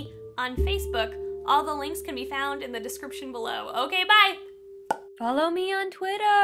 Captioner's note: pop noise